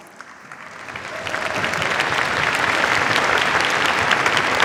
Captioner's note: cheers, applause